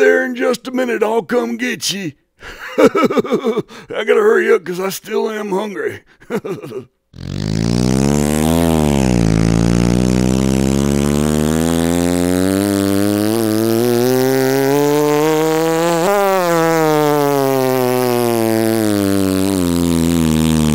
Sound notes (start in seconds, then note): 7.2 motor buzzing; 16.6 motor slowing